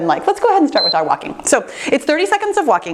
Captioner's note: timer beeps